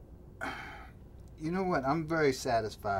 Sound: groans

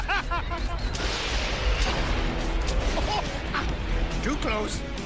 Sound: laughing; thunder cracks

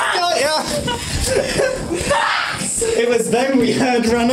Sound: screaming

